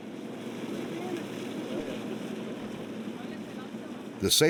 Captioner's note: indistinct chatter